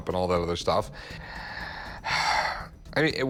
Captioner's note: sighs